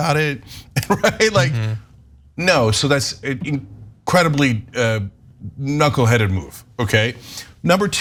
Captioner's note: laugh